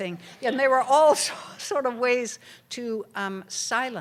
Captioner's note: laughter